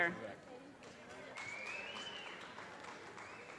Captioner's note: audience cheers and applause